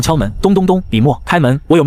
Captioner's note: knock knock knock